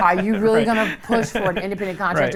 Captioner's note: laughs